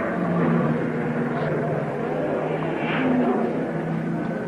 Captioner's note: cars revving